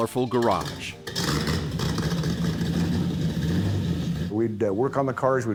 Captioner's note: engine revving